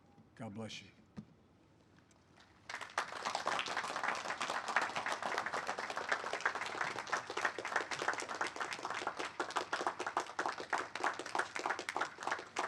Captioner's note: applause